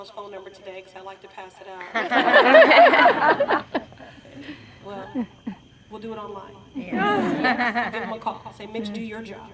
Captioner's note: laughter